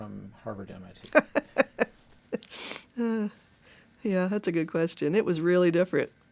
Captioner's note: chuckles